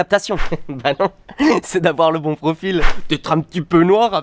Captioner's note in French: rires